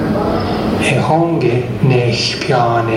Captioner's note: male voice speaking in Indigenous Myaamia language